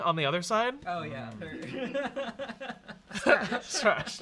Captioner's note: laughing; laughs